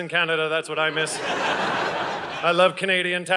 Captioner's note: audience laughing